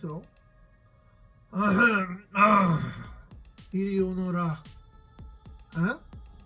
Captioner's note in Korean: 헛기침